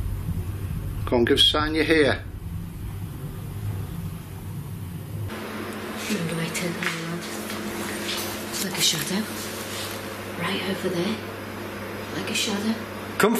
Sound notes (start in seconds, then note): 7.2 mumbles